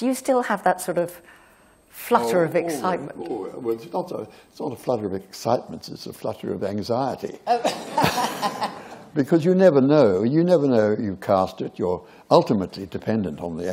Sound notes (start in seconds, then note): 7.5 laughter